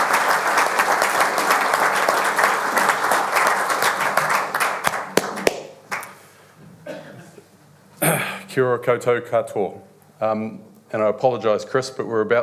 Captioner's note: applause